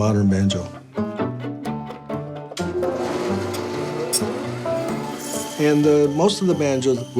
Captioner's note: whirring